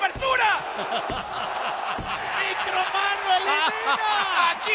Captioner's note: laugh